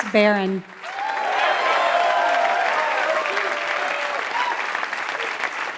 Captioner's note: applause